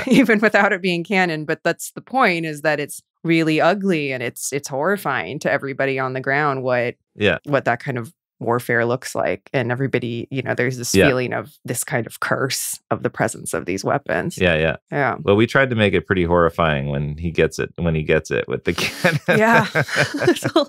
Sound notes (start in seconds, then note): 18.4 laughs